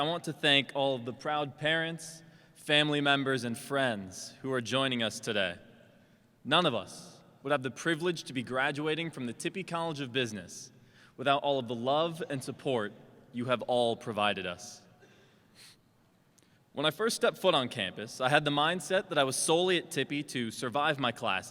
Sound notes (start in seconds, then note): none